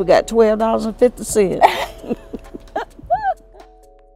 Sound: laughter

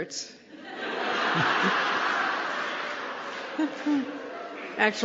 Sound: laughter

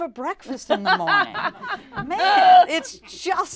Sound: laughing

